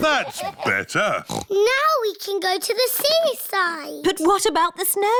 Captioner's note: oinks